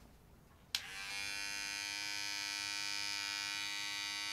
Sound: buzzing

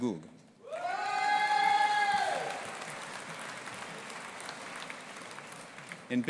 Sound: audience applauding and cheering

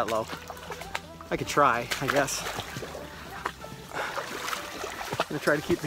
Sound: water splashing

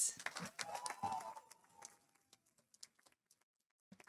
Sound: audience applauding

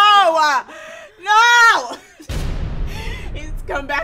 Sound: laughs; ominous music

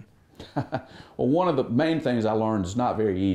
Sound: laughs

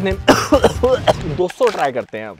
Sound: coughing

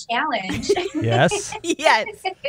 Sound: laughter

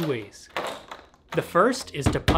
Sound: plastic rustling

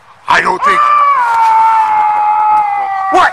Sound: yelling

